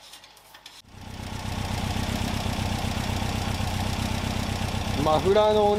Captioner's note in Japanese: エンジン音